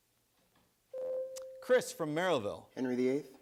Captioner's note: buzzer sounds